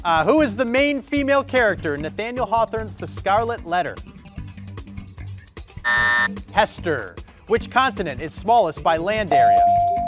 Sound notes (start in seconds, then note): 5.8 buzzer buzzing